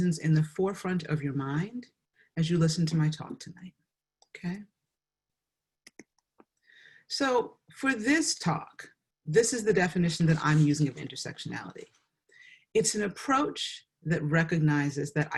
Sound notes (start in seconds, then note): 5.8 mouse clicks